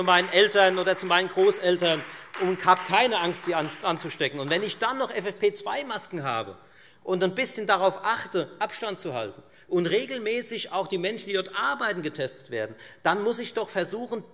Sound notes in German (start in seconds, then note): 4.8 Beifall Freie Demokraten